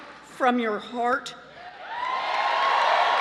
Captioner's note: cheering and applause